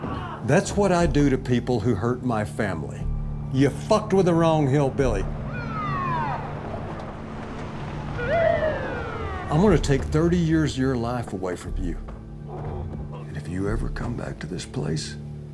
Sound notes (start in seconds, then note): 5.4 siren blares outside